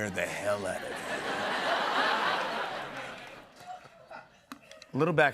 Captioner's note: laughter